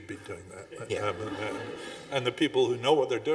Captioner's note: audience chuckling